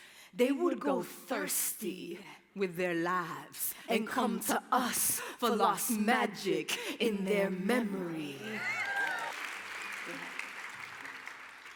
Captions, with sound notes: they would go thirsty with their lives, and come to us for lost magic in their memory. [APPLAUSE]